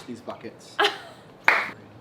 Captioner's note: laughs and claps